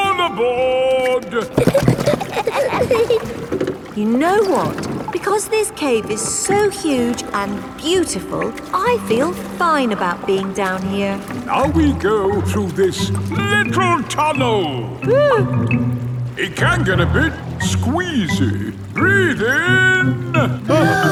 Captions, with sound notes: -All aboard! -(GIGGLING) You know what. Because this cave is so huge and beautiful, I feel fine about being down here! Now we go through this little tunnel! (WHIMPERS) It can get a bit squeezy! Breath in!